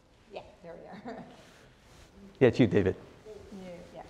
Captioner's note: laugh